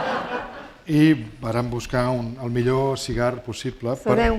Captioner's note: laughter; speaking spanish